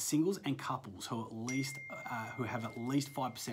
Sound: phone dings

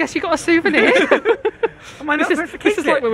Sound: chuckling

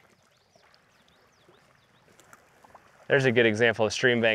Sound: birds chirping in background

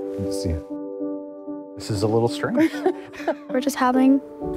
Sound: Rires

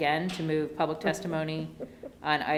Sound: laughs

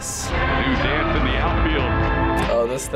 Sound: voice-over

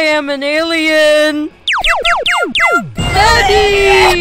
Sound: pew pew pew pew pew

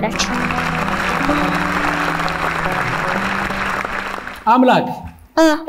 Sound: applause

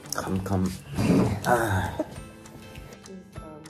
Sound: sigh of relief

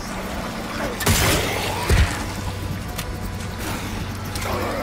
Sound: gun firing

